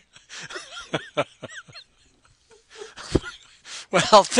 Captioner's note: both laugh